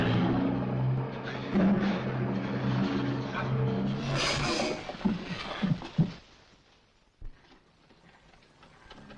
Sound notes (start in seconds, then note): 4.2 cage clatters